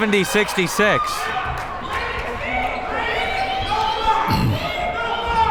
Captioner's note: crowd members shouting